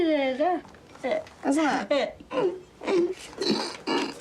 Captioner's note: grunts